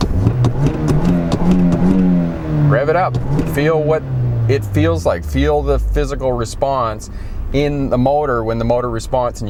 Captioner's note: rev